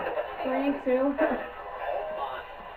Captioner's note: laughs